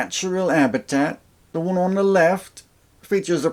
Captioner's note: outback guy voice